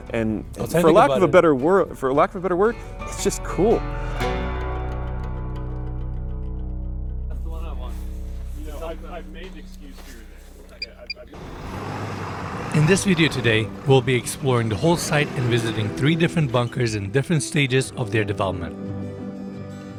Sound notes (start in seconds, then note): 4.0 gentle music; 10.8 timer beeping; 11.2 vehicle engine revving